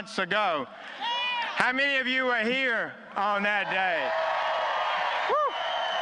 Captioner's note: applause